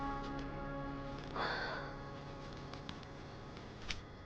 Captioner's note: breathing heavily